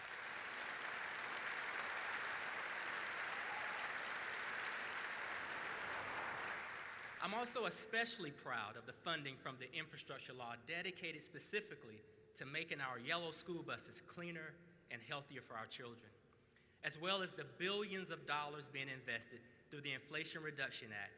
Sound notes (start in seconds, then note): 5.7 applause